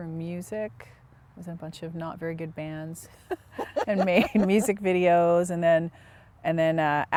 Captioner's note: laughter